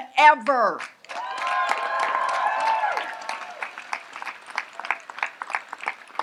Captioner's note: audience applauds and cheers